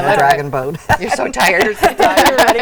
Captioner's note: laughing